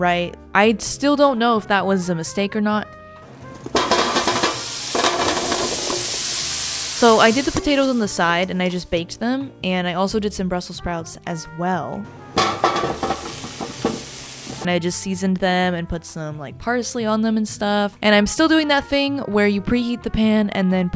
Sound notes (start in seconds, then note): 3.5 potatoes hitting the pan; 12.4 brussel sprouts hitting the pan